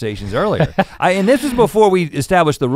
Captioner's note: Link laughing